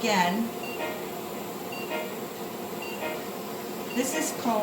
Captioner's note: medical device beeps